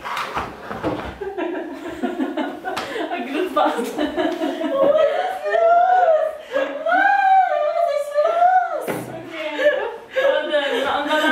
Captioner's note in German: alle lachen